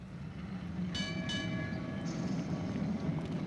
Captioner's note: trolley bell rings